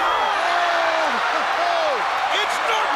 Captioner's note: laughs